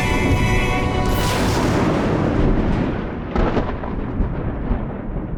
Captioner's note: lightning strikes them down violently